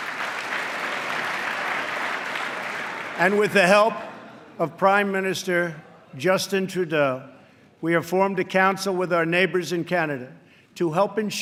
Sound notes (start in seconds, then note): 0.0 applause